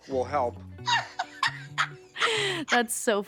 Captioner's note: Abby laughing